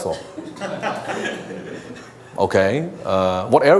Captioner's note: audience laughs